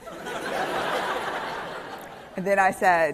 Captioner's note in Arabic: ضحك